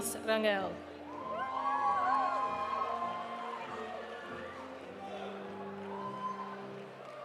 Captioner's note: audience applauding; audience cheering